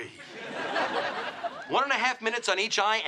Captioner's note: audience laughing